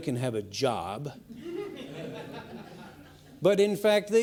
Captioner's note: laughing